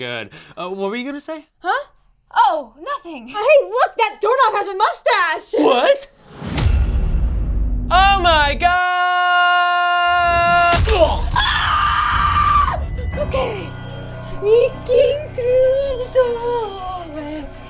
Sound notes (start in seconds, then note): 10.9 squoosh; 11.7 screaming